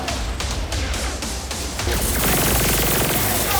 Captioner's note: lasers firing